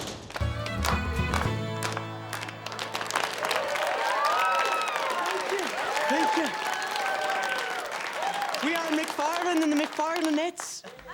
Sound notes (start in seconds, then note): 0.4 lively dance music; 3.0 students cheer; 10.8 class laughs